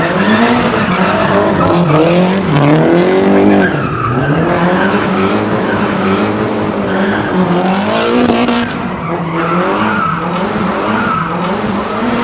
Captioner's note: tires screeching; engine revving; tires screeching